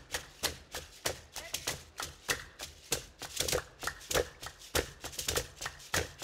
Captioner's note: hands clapping and beads rattling